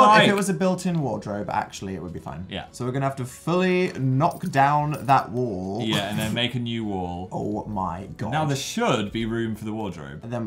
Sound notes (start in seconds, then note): 5.9 laughs